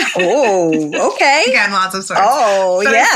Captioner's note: laughs